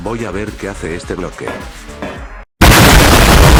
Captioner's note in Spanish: Explosión